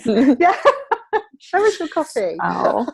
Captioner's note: laughing